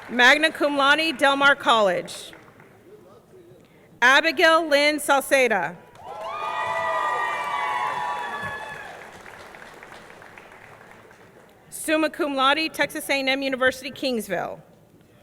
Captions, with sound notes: Magna cum laude, Del Mar College. Abigail Lynn Sauceda. (audience cheering) (audience clapping) Summa cum laude, Texas A&M University, Kingsville.